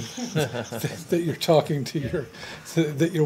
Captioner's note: laughter